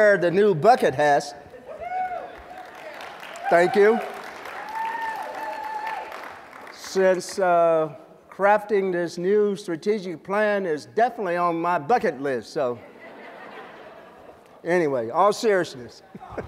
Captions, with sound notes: the new bucket hats. [cheering, applause] Thank you. Since, uh, crafting this new strategic plan is definitely on my bucket list, so. [laughter] Anyway, all seriousness.